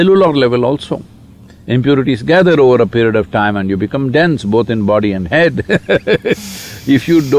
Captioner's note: laughs